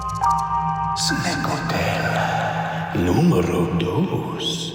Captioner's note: voiceover